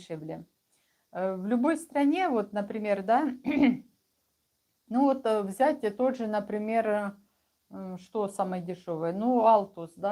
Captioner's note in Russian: откашливается